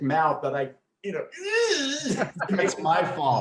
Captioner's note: groans